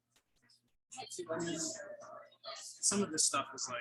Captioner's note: people chattering indistinctly